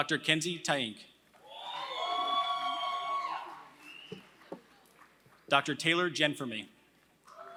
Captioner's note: applause; applause; applause